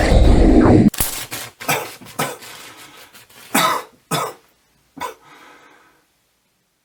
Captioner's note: explosion sounds and coughing